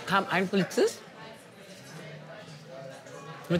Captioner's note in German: Restaurantkulisse